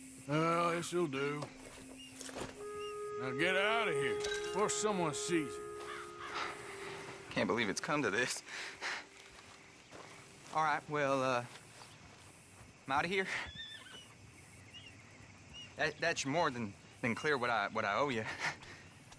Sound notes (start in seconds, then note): 15.3 laughs